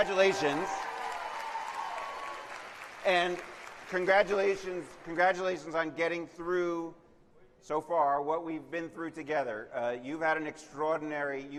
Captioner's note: cheers and applause